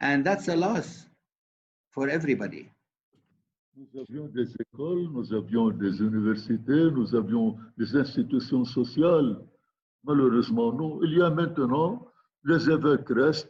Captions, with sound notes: And that's a loss for everybody. (speaking in foreign language)